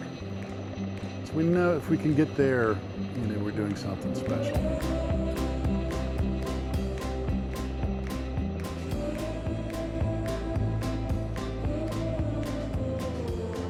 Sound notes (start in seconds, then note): 4.3 helicopter rotors whirring; 7.6 upbeat music